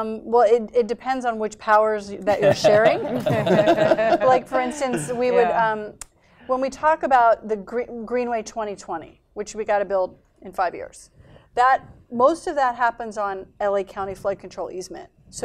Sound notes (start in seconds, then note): 2.3 laughter